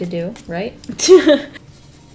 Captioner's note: laughs